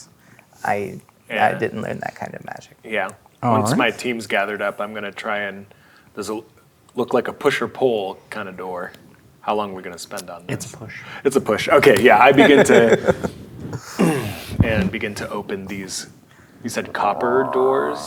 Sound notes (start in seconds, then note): 12.3 laughing; 13.7 grunts